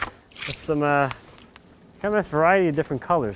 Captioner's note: water sloshes